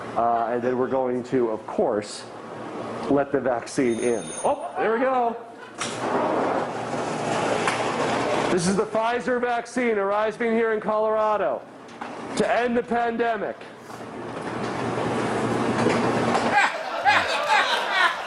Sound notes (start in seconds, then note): 3.8 bell rings; 5.8 door motor whirring; 16.4 laughter